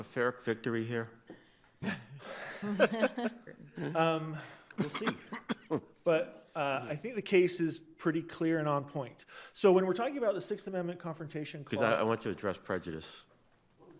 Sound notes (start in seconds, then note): 1.8 people laugh